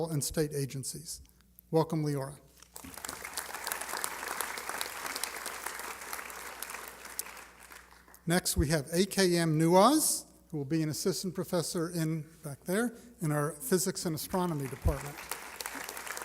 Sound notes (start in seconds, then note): 5.3 applause; 15.9 applause